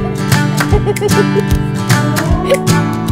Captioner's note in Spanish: risas